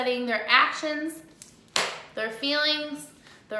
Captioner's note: clap